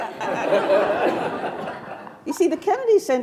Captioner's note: attendees laughing